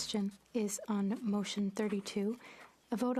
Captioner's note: speaking French